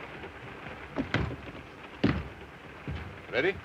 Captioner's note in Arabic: صوت خشخشة القطار; يغلق الباب